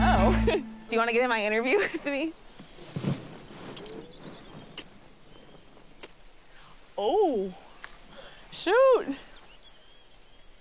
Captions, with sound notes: - Oh, do you want to get in my interview with me? (kissing sounds) - Oh... shoot!